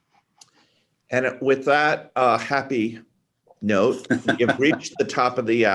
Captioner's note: laughing